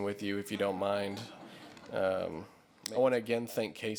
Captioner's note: laughter